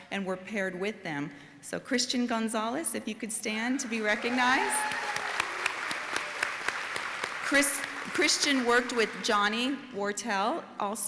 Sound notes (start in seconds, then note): 3.8 audience applauding and cheering